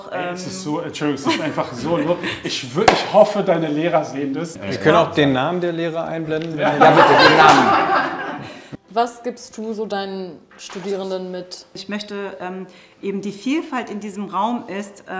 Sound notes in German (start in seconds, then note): 6.7 Lachen